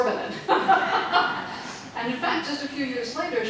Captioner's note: audience laughing